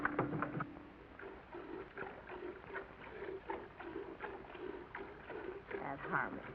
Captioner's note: squirting sound